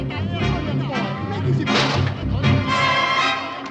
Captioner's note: men speaking Chinese